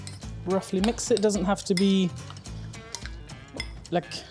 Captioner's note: bowl clacking